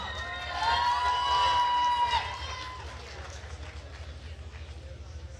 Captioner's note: attendees cheering and applauding